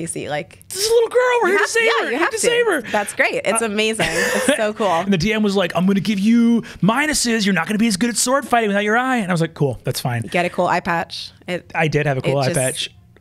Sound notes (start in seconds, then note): 5.0 laughs